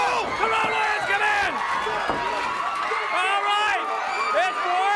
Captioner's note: crowd chatter